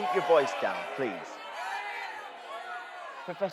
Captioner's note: booing and shouting continuing